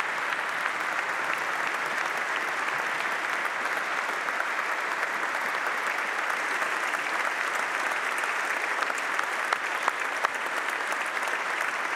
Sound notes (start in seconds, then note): 4.5 applause